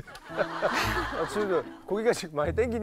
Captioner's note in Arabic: الضحك